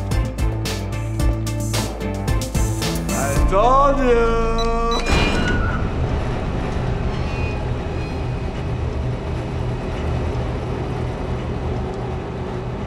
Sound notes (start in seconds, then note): 3.6 creaking, grinding; 4.0 beeping